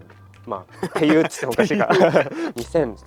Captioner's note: laughs